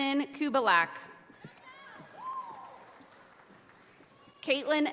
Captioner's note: audience applauding